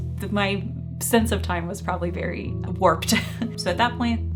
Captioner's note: chuckling